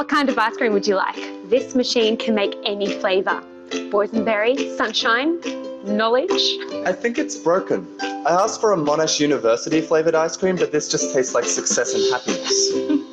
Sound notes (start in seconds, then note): 5.6 faintly speaking; 12.1 laughs